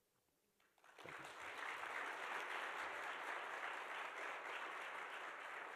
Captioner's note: attendees applauding